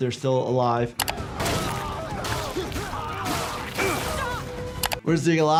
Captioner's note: grunting